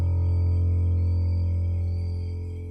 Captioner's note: sounds of nature and crickets